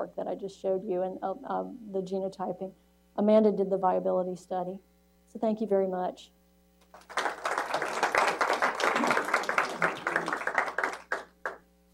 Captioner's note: applause